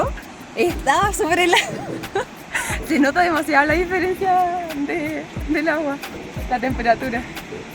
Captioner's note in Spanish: risas